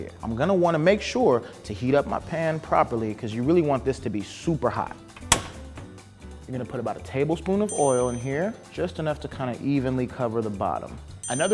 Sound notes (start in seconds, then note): 4.9 pops